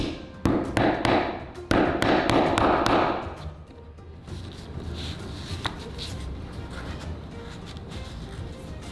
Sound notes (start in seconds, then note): 1.7 hammer pounding